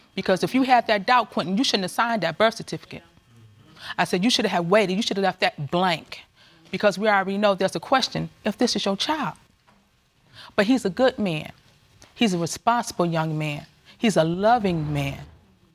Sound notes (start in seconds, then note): none